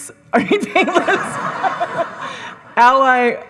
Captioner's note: audience laughing; laughs